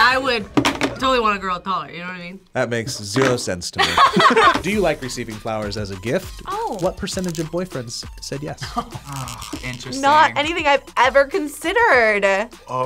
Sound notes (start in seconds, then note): 3.8 both laugh; 8.6 laughs